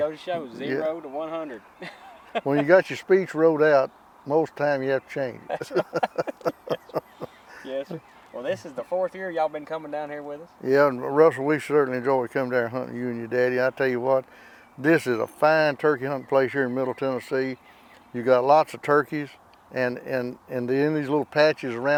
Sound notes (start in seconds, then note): 1.8 laughing; 5.4 laughing